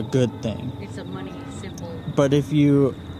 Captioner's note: car